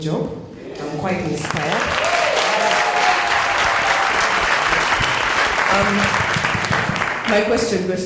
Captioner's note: cheers and Applause